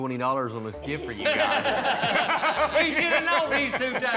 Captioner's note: laughter